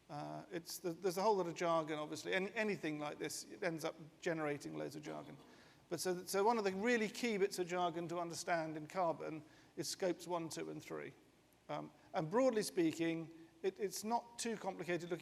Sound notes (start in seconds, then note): none